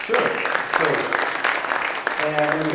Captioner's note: audience clapping